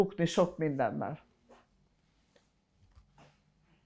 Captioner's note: pauses 6 seconds